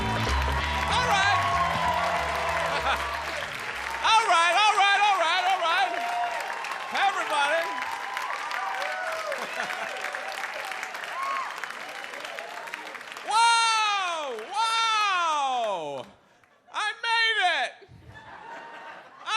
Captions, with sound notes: - All right. All right, all right, all right. Hey everybody. (audience applauds) (audience cheers) Wow. I made it.